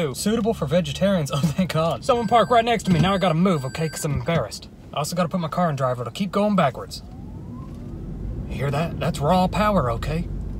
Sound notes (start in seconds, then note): 7.5 engine whirring